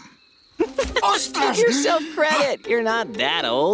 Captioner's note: laughs